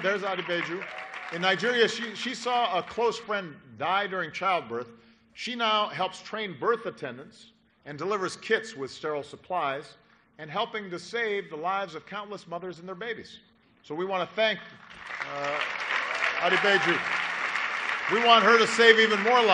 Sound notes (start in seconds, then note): 16.5 applause